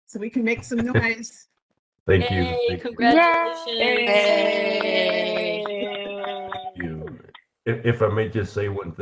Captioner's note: cheering and clapping